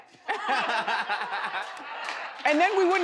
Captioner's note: audience laughs